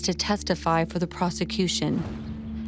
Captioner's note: swoosh